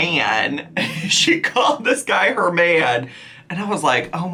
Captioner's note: chuckling